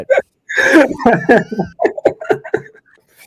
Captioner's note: laughing